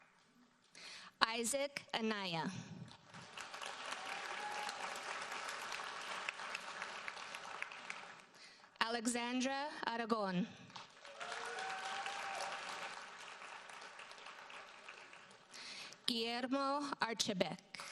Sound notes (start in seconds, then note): 3.0 audience applauds; 10.8 audience applauds